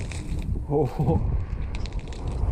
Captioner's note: ice cracking; chuckles